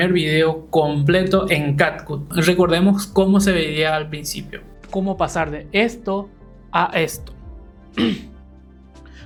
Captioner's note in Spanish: carraspeo